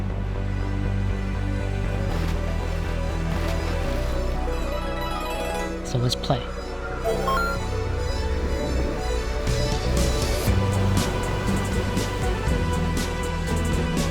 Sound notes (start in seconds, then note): 0.1 gentle thrilling music; 1.6 water splashing; 5.0 game chiming; 7.1 waves whooshing; 7.8 upbeat music